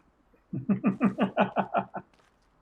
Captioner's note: laughs